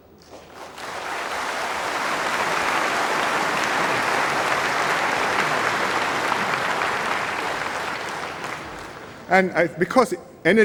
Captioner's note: applause